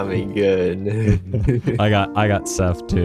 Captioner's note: laughing